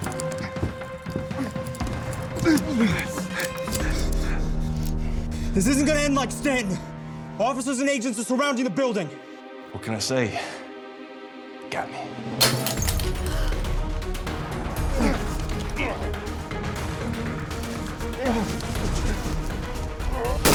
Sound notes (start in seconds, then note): 12.4 glass breaking